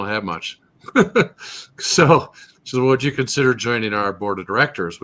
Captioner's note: laughs